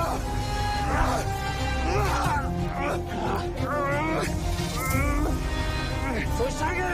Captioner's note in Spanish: Jadeos y exclamaciones